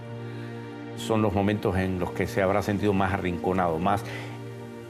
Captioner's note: speaking Spanish